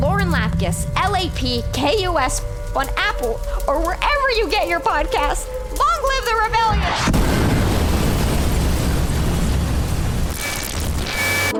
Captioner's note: boom